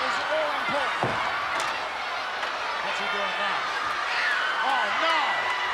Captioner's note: applause